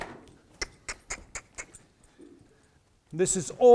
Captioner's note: making clicking noises